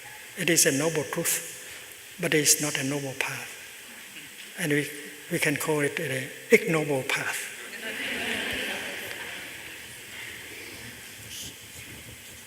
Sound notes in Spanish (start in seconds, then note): 7.7 Risas